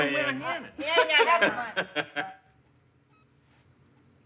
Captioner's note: Phillip laughs